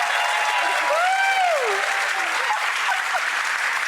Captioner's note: Emme laughs